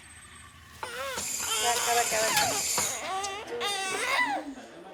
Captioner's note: baby crying